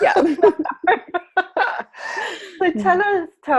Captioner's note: laughing